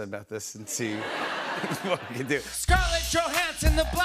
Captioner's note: laughter